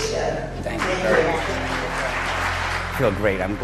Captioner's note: clapping